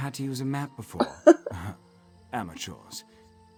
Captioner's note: chuckles